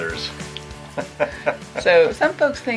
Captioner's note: laughs